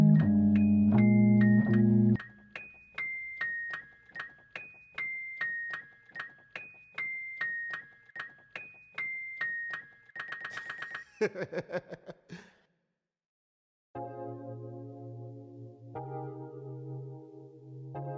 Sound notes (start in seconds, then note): 10.6 chuckling; 14.0 relaxing instrumental music